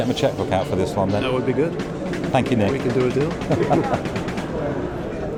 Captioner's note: laughs